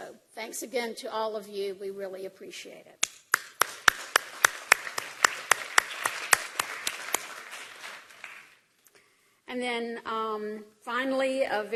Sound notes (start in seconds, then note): 1.6 applause